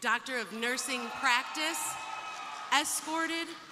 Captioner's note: crowd cheering; crowd applauding